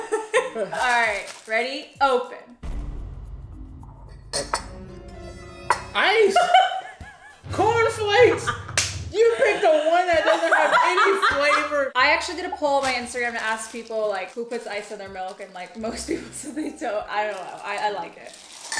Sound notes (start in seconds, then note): 0.6 laughs; 4.9 dramatic, exclamatory music; 6.4 laughs hystericallY; 16.4 laughing